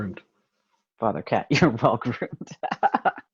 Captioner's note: laughing